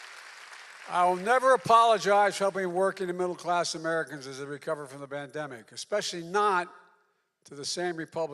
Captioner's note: applause